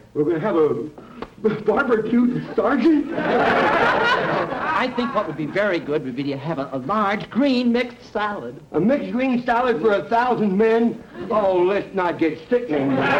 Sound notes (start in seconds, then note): 3.0 audience laughter